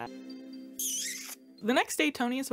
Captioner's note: kiss smacks